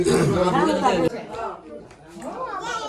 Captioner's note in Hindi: गला साफ़ करने की आवाज़